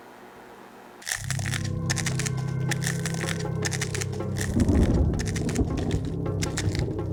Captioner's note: crunching